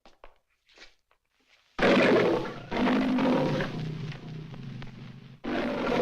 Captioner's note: roaring; growling